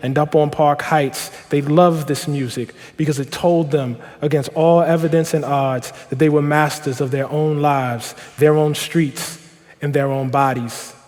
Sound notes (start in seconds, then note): none